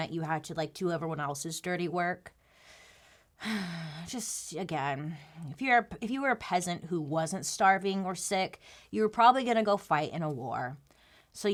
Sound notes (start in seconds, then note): 3.4 sighs